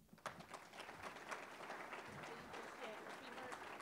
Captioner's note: audience applauding